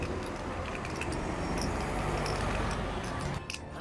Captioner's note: vehicles passing